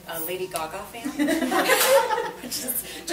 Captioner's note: group laughs